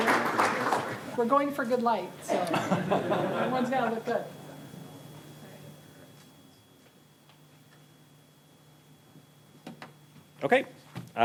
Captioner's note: applause; laughter